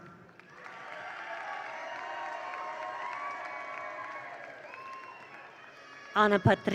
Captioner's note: attendees applaud; attendees cheer